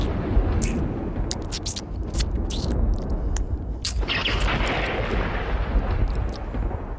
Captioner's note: chewing and Chowing!